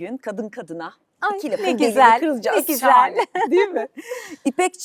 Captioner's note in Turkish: kahkaha